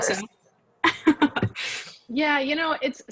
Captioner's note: laughs